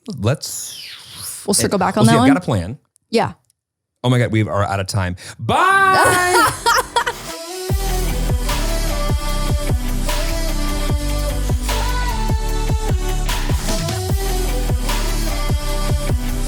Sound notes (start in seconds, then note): 5.9 laughing; 8.1 chill music